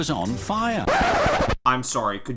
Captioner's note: record needle scratching